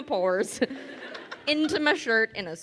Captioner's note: crowd laughing